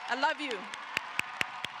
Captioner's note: applause